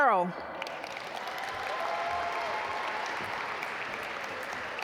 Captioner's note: audience applaud